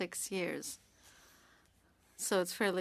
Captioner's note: speaking french